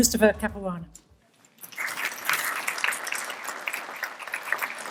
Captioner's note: applause